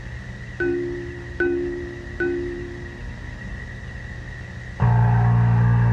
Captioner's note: computer chiming; game buzzing